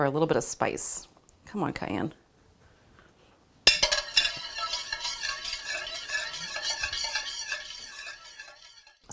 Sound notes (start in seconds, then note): 3.6 whisk scrapes pan